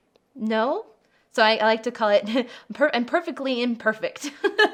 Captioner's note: laughs